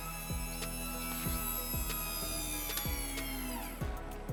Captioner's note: hydraulics whirring